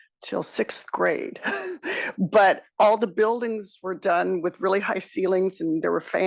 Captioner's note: laugh